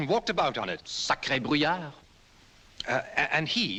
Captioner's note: speaking french